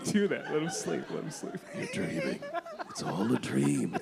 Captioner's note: laughter